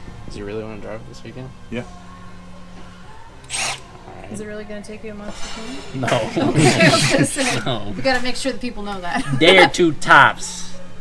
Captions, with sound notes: Does he really want to drive it this weekend? Yeah. Is it really going to take you a month to tune it? No (laughing) We gotta make sure that people know that. Day or two tops!